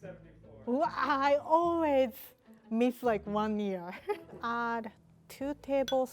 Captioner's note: laughs